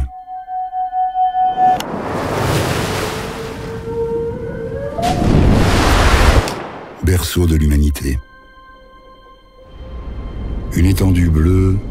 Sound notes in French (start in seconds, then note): 1.7 Bruit de vagues; 3.0 Chant de baleine